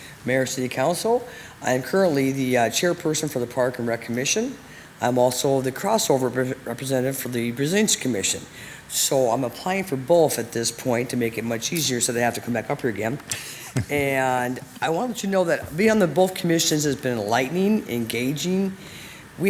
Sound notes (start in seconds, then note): 13.3 speaker chuckles